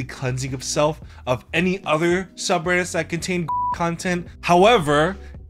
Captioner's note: beep